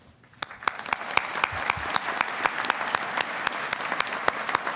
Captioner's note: audience applauding